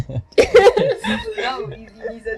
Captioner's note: laughs